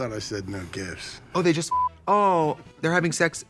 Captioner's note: beep